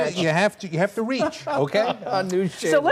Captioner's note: laughter